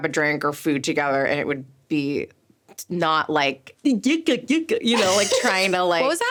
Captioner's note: laughing forcefully